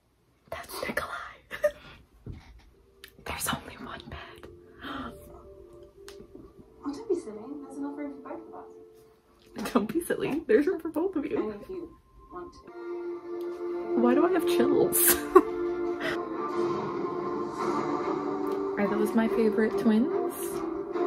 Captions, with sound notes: that's nikolai!! [whispers] there's only one bed! don't be silly! there's room for both you! why do I have chills?! are those my favorite twins?!